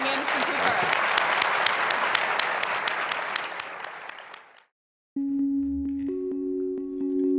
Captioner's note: audience clapping